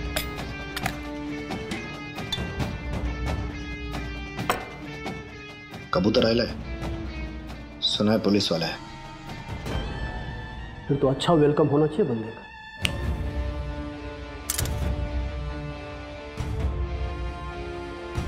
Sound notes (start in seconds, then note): 12.8 Finger snapping; 14.4 Spoons clinking